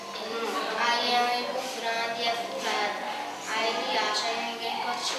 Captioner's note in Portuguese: Fundo de vozes de crianças fora da sala de aula